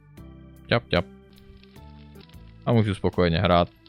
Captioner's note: steppy step